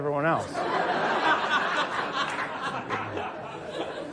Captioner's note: audience laughs